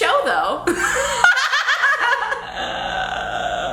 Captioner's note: laughs